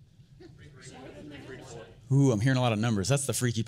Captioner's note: audience murmurs